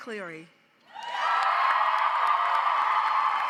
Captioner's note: audience cheers; audience applauds